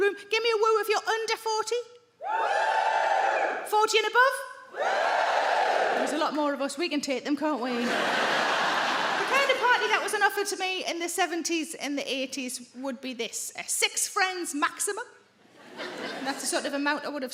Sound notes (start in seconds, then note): 2.2 audience woos; 4.7 audience woos; 7.7 audience laughing; 15.6 audience laughing